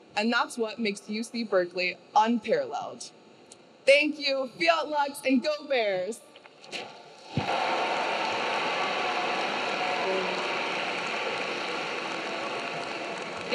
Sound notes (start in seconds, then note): 7.3 audience cheering; 7.4 audience clapping